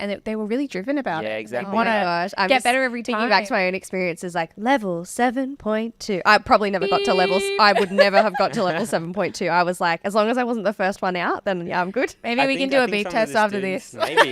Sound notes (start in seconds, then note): 6.8 imitating beeping; 6.8 laughing